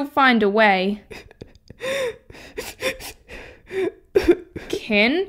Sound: sobbing

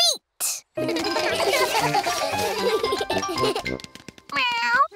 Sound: all giggle

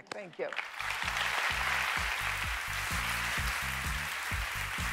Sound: applause

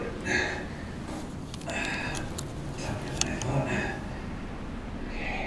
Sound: mumbling

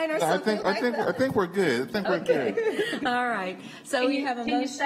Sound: laughter

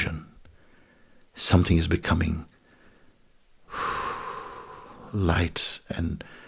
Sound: exhales softly

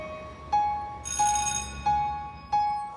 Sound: bell rings

